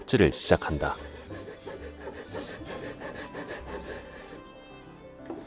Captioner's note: sawing sound